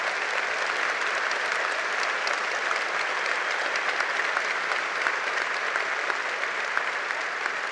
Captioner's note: applause